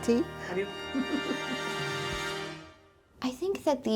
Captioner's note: chuckles